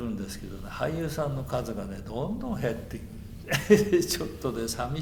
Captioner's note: laughs